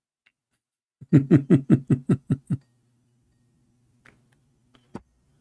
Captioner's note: Ketawa